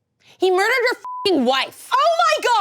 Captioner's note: beep